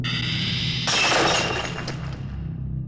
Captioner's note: glass shattering; ominous music